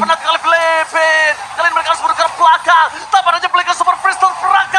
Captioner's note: applause